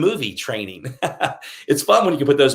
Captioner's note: laughing